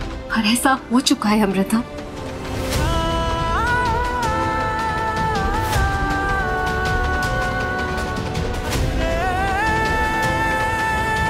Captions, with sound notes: But, this is happening, Amrita. [emotional vocalising]